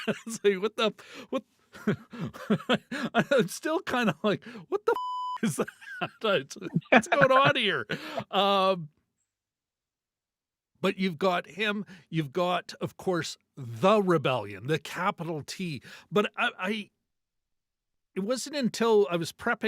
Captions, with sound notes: (laughing) Yeah, so what the, what? (laughing) It's still kind of like, what the (beep) is that? What's going on here? But you've got him, you've got, of course, the rebellion, the capital T. But I, it wasn't until I